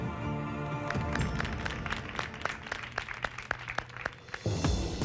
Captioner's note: applause